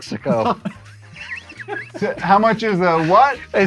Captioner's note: wheezes